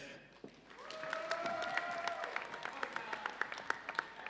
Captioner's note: audience cheering